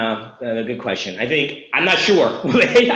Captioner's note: laughs